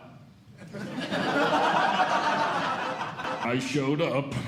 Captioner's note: audience Laughing